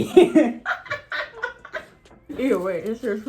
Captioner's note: laughs